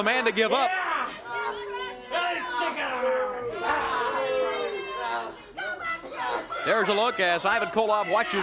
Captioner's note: crowd chatter